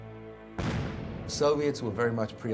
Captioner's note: firing